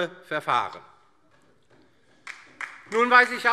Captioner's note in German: Beifall DIE LINKE